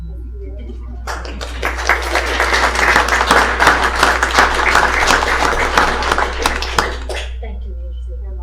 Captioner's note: applause